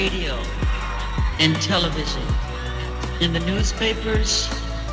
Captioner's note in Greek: χειροκρότημα